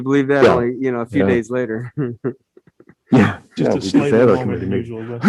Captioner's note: laughs